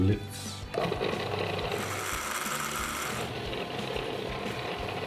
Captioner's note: blender churning